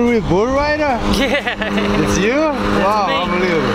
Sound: laughing

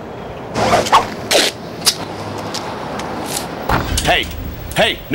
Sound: ripping tape sound

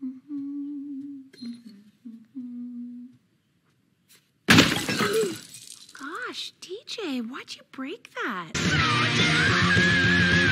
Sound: humming; rock music

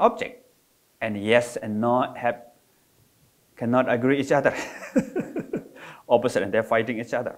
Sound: laugh

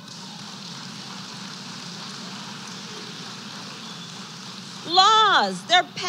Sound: applause

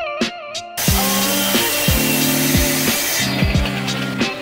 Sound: saw whirring

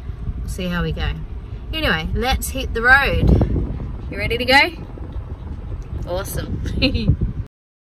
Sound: giggles

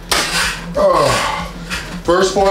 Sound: groans

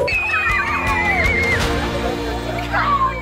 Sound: screaming

